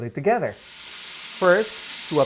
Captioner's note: pan sizzling